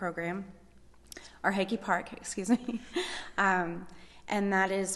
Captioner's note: laughs